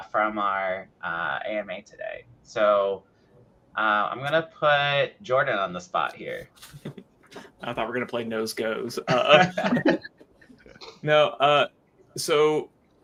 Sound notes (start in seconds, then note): 6.4 laughs; 8.9 people laughing